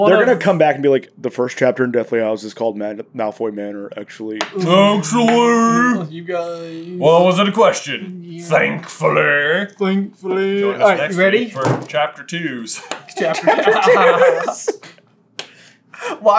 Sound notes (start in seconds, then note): 4.6 mouth breather voice; 13.0 giggling